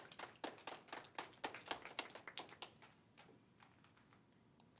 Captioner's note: light applause